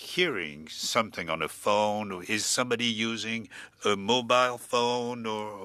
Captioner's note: speaking French